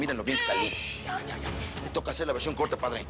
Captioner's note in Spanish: Gemido del bebé